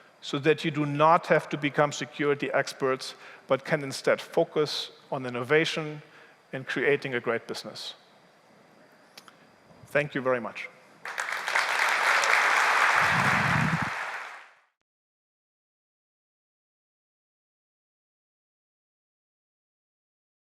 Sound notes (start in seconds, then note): 11.0 applause